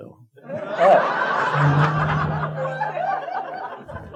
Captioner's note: audience laughing